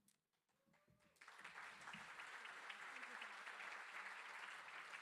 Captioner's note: crowd applauding